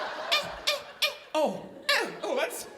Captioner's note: audience laughing; high-pitched shrieking